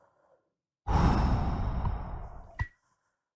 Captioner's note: Skull exhales